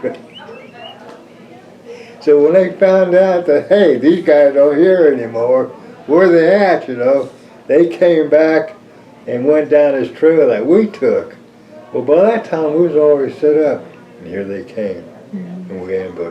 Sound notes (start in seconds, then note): 2.7 laughs